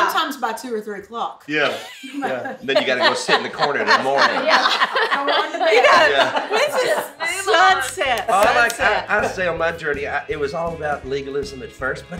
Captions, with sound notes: - Sometimes by 2 or 3 o' clock. - Yeah. (laughs) - Then you gotta go sit in the corner 'til morning. (laughs) - This is sunset. - I say, it was all about legalism at first,